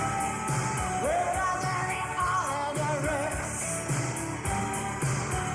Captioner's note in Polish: Aplauz